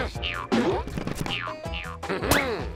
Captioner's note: boinging